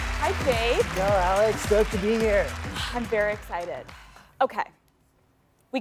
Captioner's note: applause